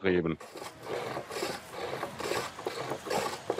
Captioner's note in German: Hobelgeräusch